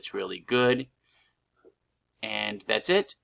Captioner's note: pause